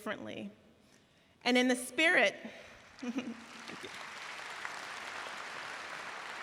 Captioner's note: audience cheering